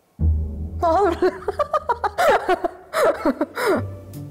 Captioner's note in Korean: 웃음